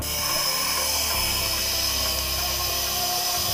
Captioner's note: air pushing